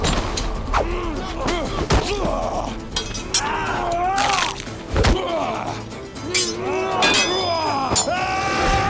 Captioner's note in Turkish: Dövüş sesleri